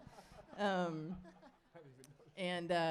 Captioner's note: audience chuckles